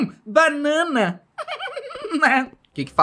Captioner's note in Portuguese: felipe dá uma risadinha